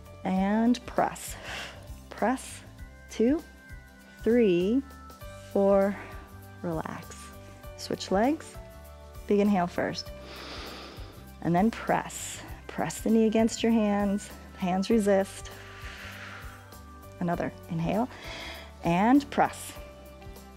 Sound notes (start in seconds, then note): 1.3 exhales; 10.2 inhales; 18.5 inhales